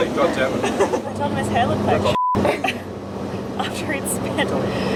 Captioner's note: beep; chuckles